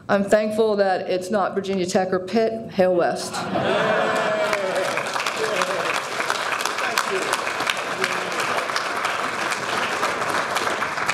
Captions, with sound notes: I'm thankful that its not Virginia Tech or Pitt, hail West. (audience applauding)